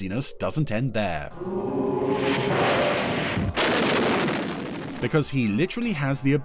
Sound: thunder rolling

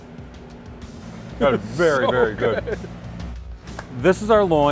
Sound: laughs

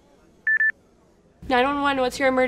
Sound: headset beeps

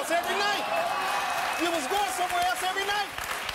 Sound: audience applause

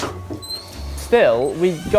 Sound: creak

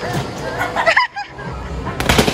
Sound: laughing

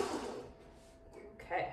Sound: blender whirs loudly

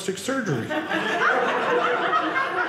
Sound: audience laughing

